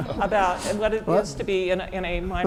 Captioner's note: laugh